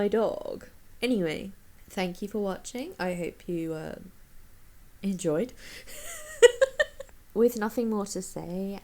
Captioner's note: wheezes